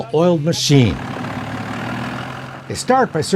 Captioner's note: car engine revving